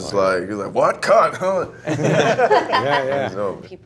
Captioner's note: laughs